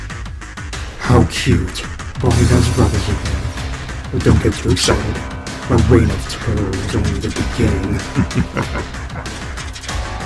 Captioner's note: evil Giggling